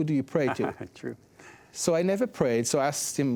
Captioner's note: chuckles